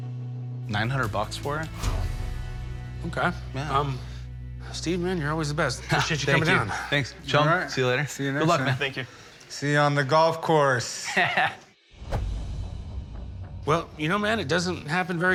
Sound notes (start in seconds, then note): 10.8 laughs